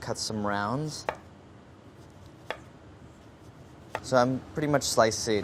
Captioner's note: knife hitting against cutting board